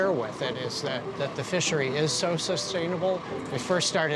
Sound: none

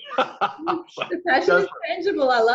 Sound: laughing

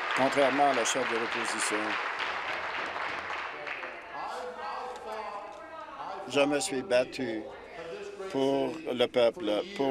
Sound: applause

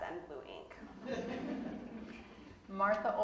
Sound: audience laughing

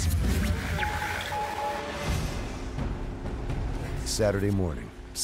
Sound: voiceover

